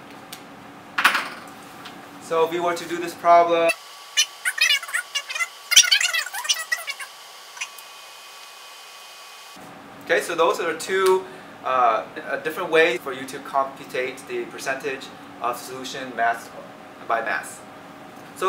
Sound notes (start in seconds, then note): 5.8 fast forward audio